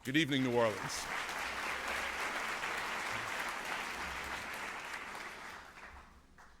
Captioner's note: applause